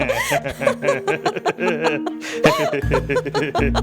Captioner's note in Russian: смеются